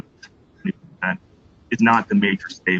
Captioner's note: break in audio